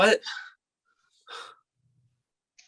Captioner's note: sigh